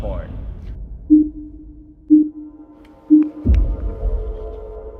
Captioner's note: countdown beeping